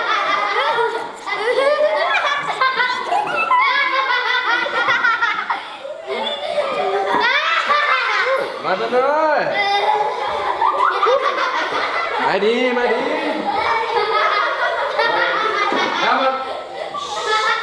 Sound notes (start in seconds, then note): 9.0 foreign language; 9.0 kids giggling